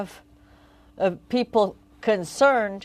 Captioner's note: speaking French